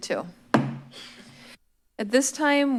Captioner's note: gavel bangs